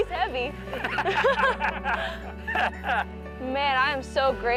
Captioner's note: laughing